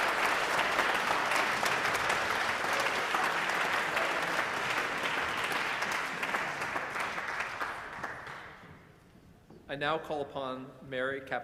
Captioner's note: applause